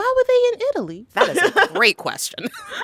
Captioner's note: laughter